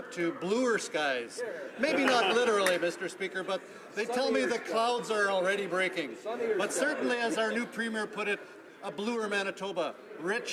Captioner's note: applause